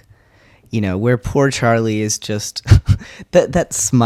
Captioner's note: laugh